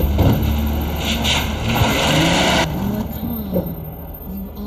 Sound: engine revving away

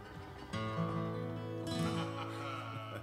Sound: group laughs

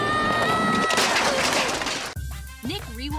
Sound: crashing

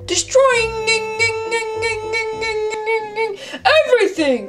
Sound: Catboy glitching

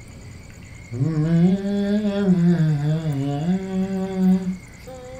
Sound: murmurs song

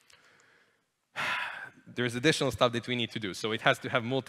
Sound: sighs

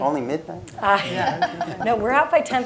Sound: laugh

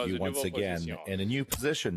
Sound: speaking french

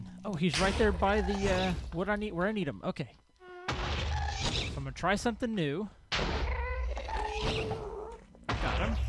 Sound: crackling fire; ghast shrieks; explosion

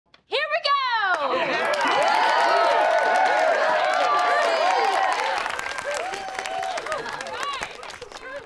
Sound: cheering, applause

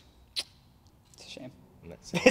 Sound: clicks tongue

